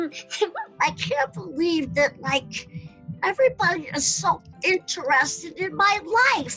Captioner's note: giggles; as Chuckie